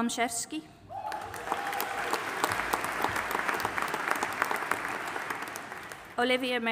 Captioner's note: audience applauding and cheering